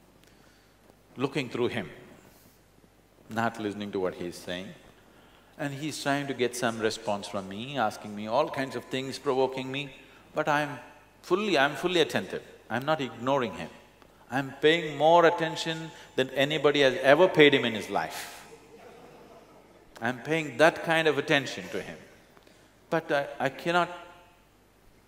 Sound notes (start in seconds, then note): 18.5 laughter